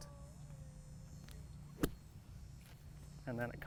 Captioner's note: golf club thwacking